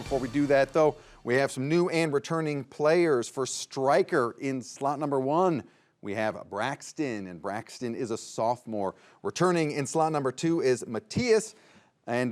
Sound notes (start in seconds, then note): none